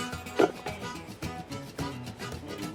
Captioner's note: blueberries thud; upbeat harmonica music